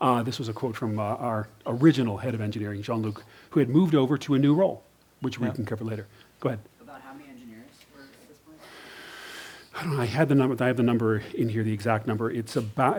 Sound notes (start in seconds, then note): 7.0 voiceover